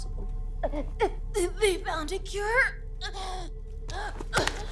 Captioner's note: gasps; tense music continues